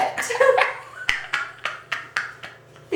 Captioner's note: both laugh